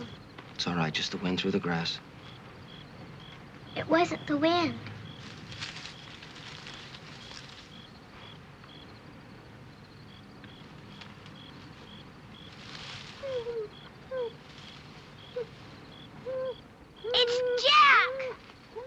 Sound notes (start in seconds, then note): 4.7 rustling; 13.2 dog crying